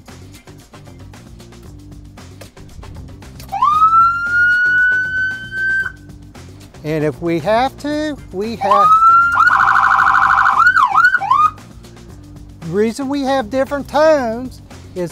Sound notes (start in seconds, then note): 0.2 upbeat music; 3.5 siren blaring; 8.6 siren blaring